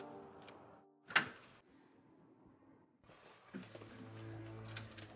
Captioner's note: footsteps crunching; door clicks; dramatic music